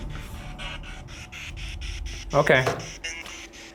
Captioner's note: Estes machine crackles